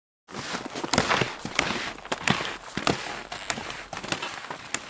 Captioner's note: skis on packed snow